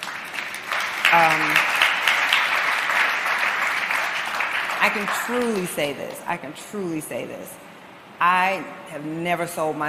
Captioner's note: applause